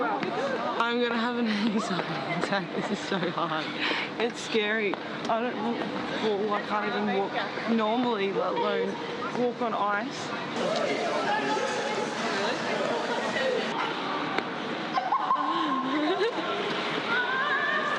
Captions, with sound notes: - I'm going to have an anxiety attack, this is so hard. It's scary, I don't want to fall, I can't even walk normally let alone, walk on ice. (laughs)